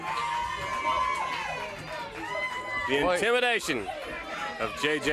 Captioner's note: crowd chatter